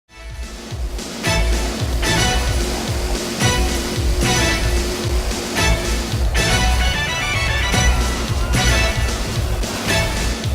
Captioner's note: speedboat noises